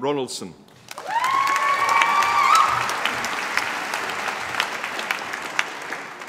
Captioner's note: applause